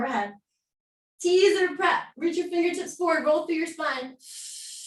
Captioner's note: exhaling